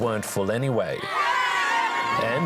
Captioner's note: cheering